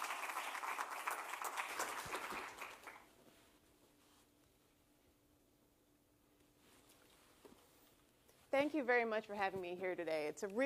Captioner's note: applause